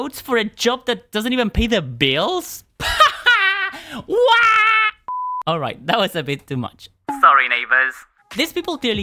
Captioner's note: crazy laugh